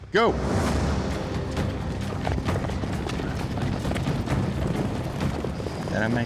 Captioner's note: fast hoofbeats